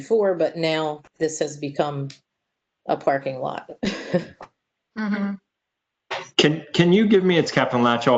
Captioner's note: laughter